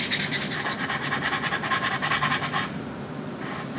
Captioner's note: sanding ASMR